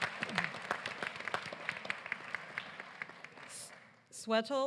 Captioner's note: applause